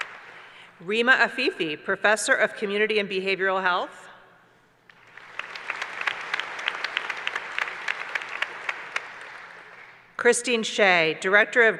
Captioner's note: applause